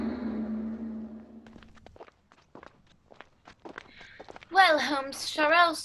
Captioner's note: footsteps on cobblestones